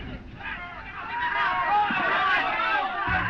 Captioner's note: all clamoring